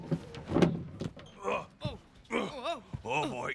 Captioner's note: Leo and Theo grunting